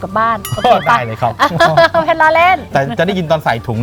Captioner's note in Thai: หัวเราะ